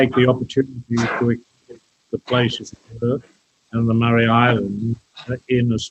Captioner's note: audio distorted